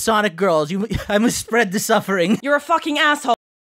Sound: laugh

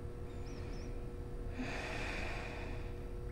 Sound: sighs

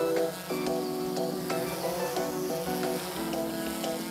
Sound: drone buzzing

